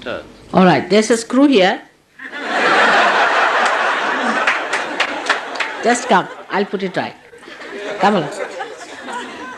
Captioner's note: laughter